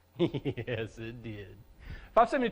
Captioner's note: laughter